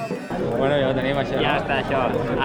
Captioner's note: in catalan